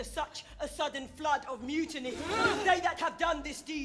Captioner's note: people gasping